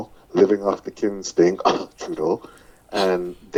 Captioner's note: cough